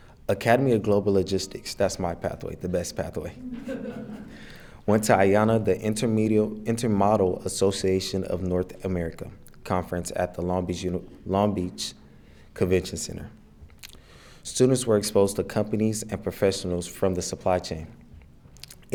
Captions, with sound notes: Academy of Global Logistics, that's my pathway, the best pathway. (attendees laughing) Went to IANA, the Intermodel Association of North America Conference at the Long Beach Convention Center. Students were exposed to companies and professionals from the supply chain.